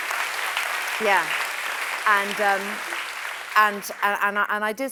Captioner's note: applause